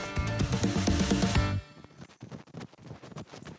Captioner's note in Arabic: خطوات الجري